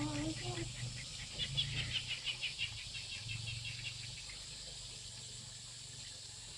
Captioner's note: birds chirping; insects chirping